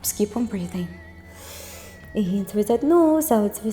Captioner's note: inhales